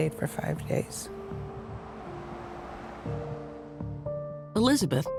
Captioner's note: vehicle driving past hospital